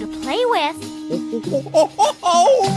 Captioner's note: monkey noises